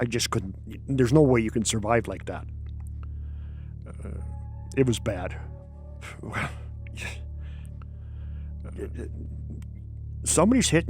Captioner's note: sighs